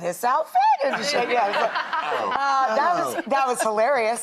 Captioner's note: all laughing